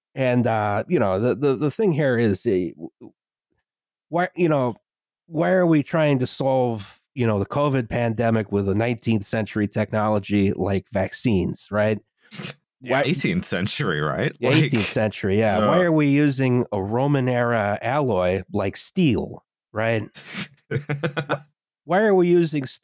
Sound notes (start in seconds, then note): 14.2 snickers